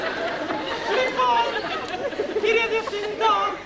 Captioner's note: με γυναικεία φωνή